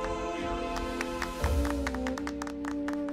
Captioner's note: Clapping